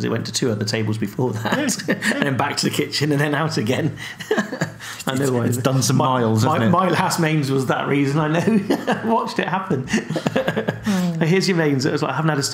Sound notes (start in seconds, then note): 4.0 laughing; 9.8 laughing